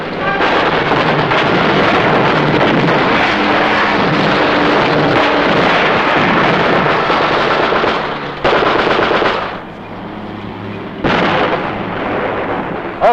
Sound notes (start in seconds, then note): 0.1 suspenseful music; 6.1 bomb exploding